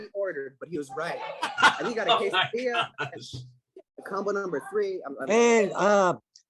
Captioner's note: laughter